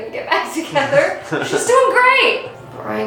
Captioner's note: laugh from off-camera